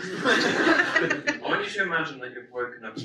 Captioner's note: audience laughs